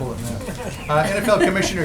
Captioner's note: laughter